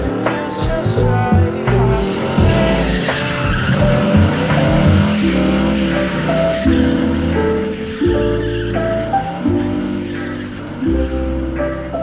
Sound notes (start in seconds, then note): 6.1 tires squealing